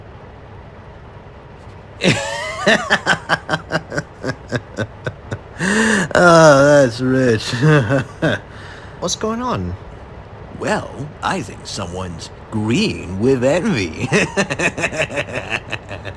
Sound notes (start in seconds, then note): 2.0 laughs; 13.2 laughing